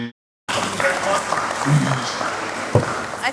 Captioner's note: applause